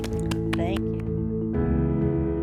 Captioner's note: claps; gentle music